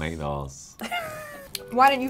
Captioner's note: laughs